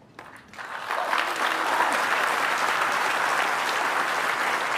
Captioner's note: applause